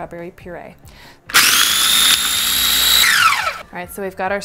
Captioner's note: mixer screeches